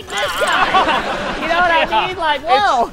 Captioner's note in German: lachen